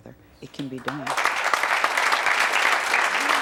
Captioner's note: audience clapping